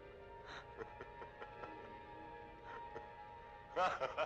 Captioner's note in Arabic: يضحك